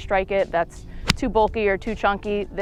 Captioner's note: golf ball smacks